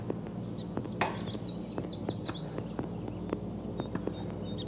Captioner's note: birds chirping